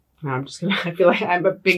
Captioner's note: laughs